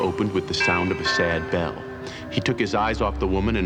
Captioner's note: bell rings